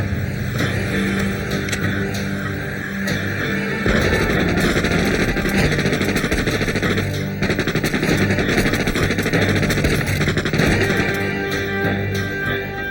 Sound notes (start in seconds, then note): 2.5 gun cocks; 3.8 gunshots fire